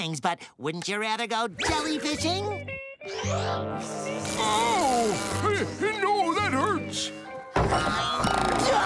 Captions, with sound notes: But wouldn't you rather go jellyfishing? [groaning] Hey no, that hurts.